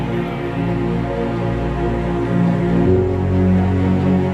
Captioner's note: crowd chatters